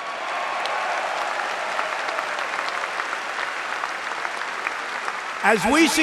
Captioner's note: applause